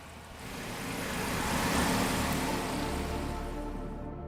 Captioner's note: car rumbles; dark music plays